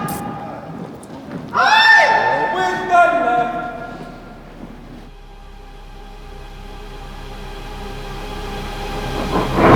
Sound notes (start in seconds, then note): 1.8 shouting; 6.7 dramatic music